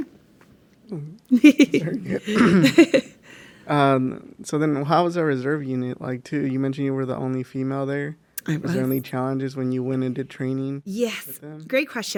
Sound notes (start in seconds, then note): 1.3 laughs